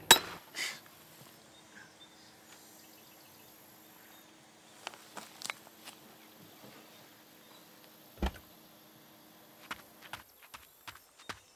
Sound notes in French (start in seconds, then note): 0.8 soupir, gloussement; 8.2 la porte s'ouvre, bruit de pas